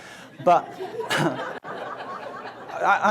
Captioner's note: audience laughs